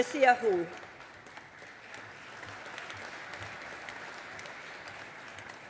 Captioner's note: audience applauding